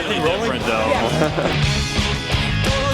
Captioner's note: laughs